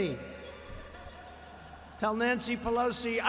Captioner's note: laughter